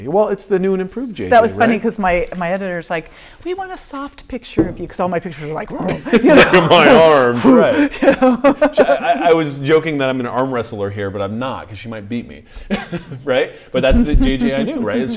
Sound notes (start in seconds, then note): 5.9 growling; 8.8 laughing